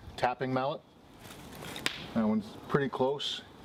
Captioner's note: loud crack